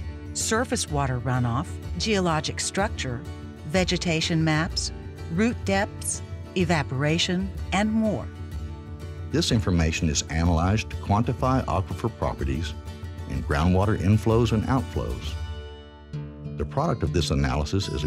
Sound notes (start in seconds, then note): 9.5 voiceover